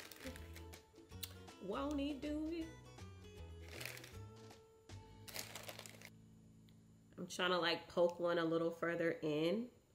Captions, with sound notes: "Won't He Do It?" (bright music continues) (plastic crinkling continues) I'm trying to like poke one a little further in